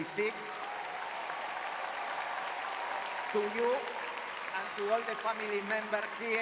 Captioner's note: audience cheering